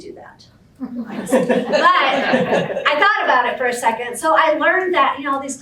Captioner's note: background laughter